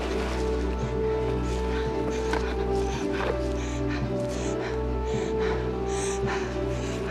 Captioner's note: continues panting